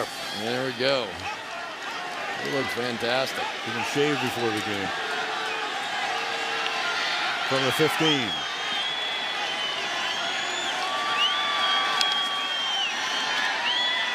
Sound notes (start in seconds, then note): 9.2 crowd cheering